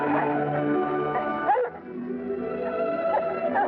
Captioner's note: dog barking